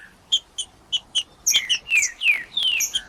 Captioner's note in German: trinca ferro cantando